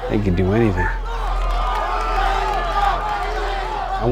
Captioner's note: crowd yelling